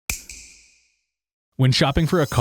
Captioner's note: snap